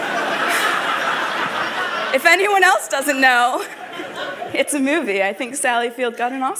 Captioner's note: laughter